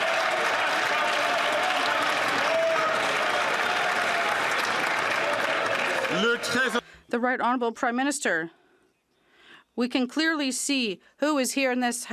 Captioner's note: some Applause